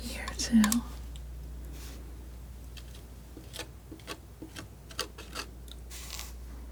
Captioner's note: scissors snipping